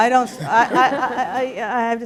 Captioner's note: laughter